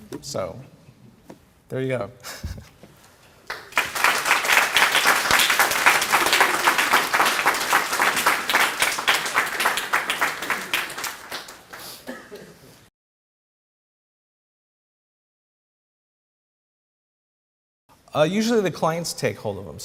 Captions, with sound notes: SO THERE YOU GO. [ APPLAUSE ] USUALLY THE CLIENTS TAKE HOLD OF THEM.